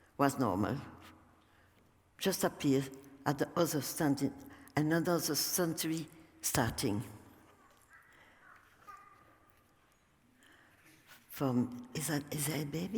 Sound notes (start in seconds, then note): 7.5 baby's voice